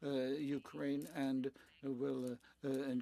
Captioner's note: speaking French